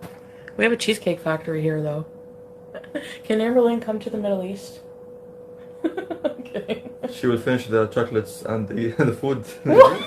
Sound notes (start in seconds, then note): 5.8 laughing